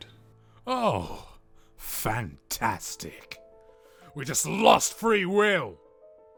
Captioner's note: irritated, struggling